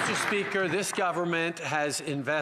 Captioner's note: some Applause